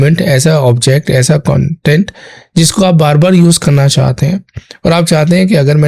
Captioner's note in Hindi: गला साफ़ करने की आवाज़